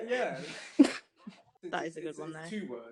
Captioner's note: laughter